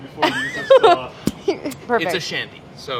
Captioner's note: laughing